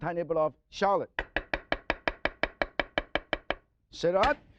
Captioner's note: knife chopping